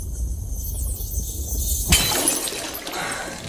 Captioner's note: glass breaking